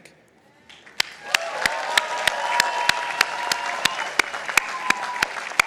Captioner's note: participants applauding